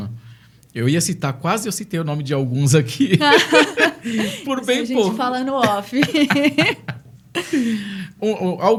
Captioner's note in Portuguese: risadas